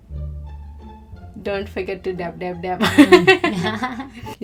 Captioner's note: laughs